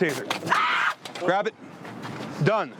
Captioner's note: screams